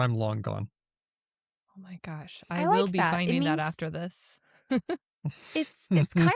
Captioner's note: chuckles